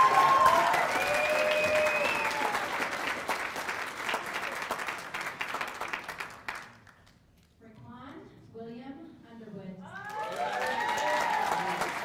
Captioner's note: cheers and applause